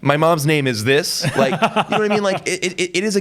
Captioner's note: laughs